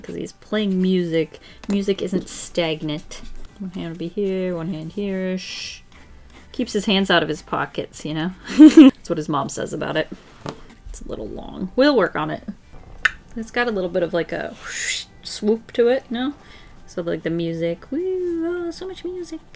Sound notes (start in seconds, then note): 8.5 laughs; 14.3 makes swoop noise